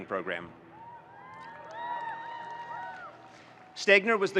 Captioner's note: students cheering